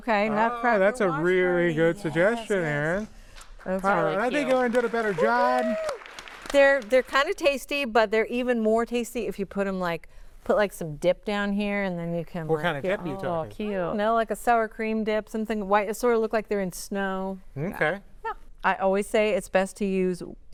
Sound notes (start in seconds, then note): 8.3 applause